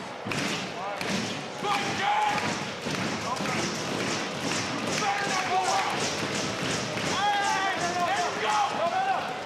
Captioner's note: crowd chatter